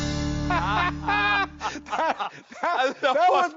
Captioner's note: laughing